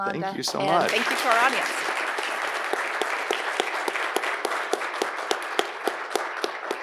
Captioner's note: audience applauding